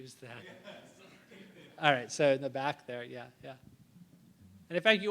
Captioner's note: laughter